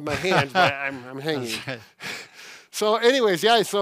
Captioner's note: laughs